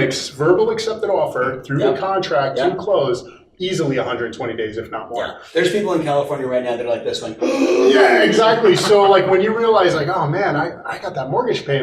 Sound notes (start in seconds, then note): 7.4 gasps